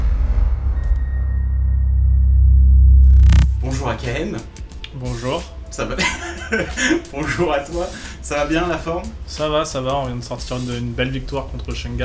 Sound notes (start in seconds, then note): 5.9 laughs